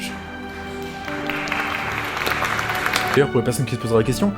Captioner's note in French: Applaudissements